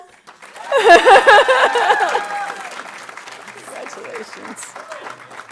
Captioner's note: audience cheering and applauding